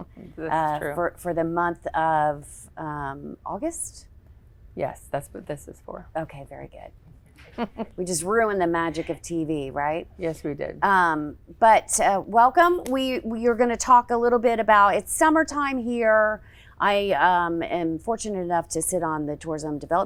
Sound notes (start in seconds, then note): 7.4 laughs